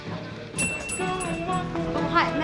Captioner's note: bell dings